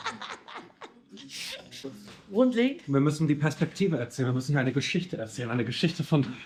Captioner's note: laughing; speaking in foreign language